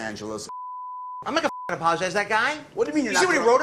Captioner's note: beep